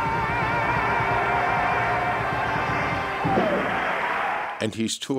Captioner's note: audience clapping and cheering